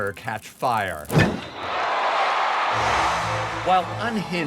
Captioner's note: cheering